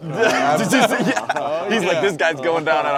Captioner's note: laughing